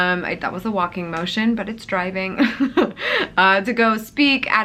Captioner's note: chuckles